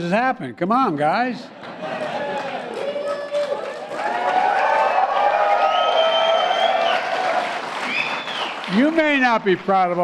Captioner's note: applause